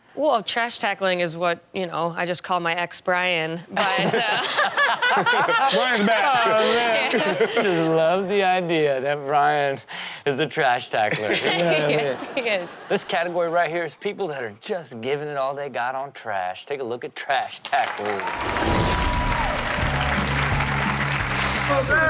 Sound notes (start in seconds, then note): 3.8 crowd laughs; 3.8 laughs; 17.7 crowd cheers; 18.6 rock music plays